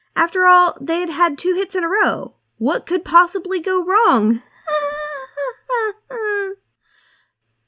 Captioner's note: uncomfortable laughter